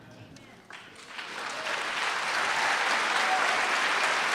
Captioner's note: applause